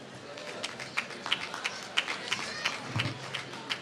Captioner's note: applause